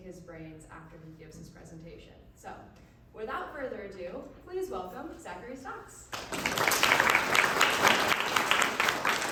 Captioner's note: applause